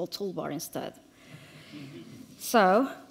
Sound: audience chuckles

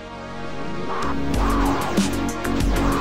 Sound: laser fire

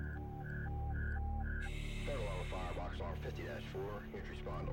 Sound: fireman over dispatch radio

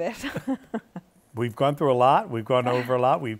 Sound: laughs

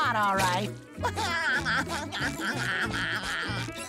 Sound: laughing

